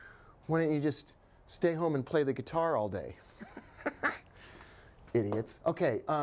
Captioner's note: chuckling